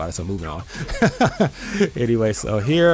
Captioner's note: laughs